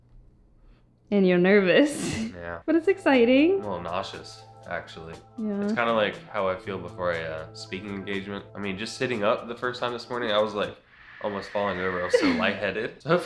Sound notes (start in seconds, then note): 2.1 chuckles; 9.8 faint swooshing